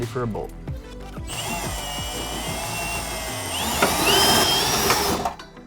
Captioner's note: drill whirring